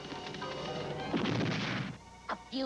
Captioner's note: smashing